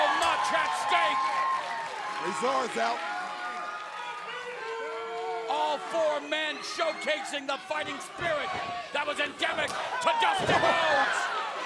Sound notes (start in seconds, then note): 4.6 crowd cheering